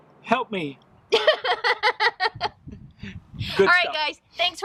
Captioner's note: laughs